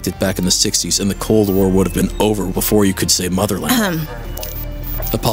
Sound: Sakayume clears her throat

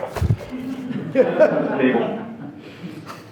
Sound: board laughing

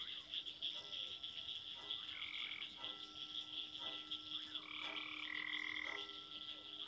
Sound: distant railroad crossing bell

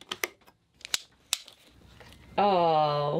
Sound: switches clicking; buckles clicking

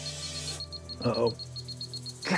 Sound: watch beeping

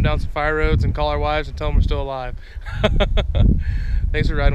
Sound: laughs

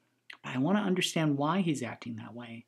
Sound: none

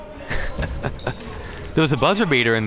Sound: laughing

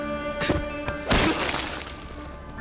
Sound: smashing

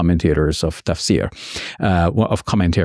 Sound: speaks in Arabic

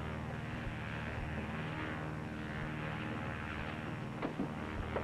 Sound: revving continues

